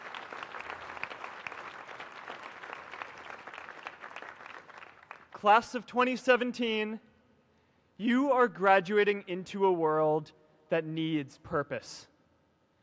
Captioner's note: applause